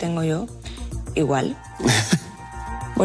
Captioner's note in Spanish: Risas